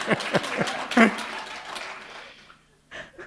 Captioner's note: laughter; applause